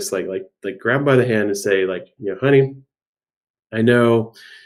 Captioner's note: none